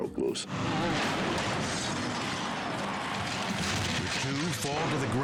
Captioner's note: race car crashing